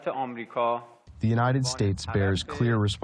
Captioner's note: through translator